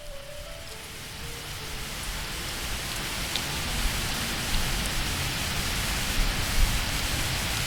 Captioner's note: rain